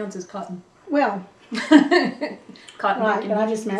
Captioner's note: laughter